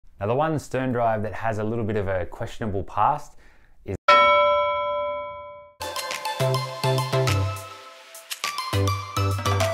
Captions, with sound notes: One sterndrive that has a little bit of a questionable past. Is... (Bell rings) (upbeat music)